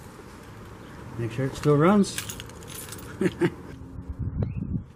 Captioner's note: laughs